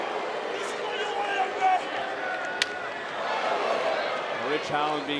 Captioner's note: yelling